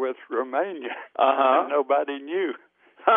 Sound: both laugh; laughs

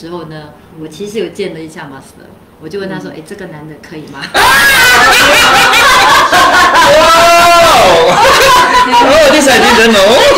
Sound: laughter

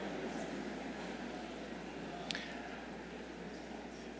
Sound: crowd murmurs

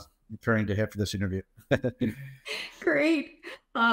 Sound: laughs

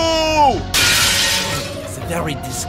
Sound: glass shattering

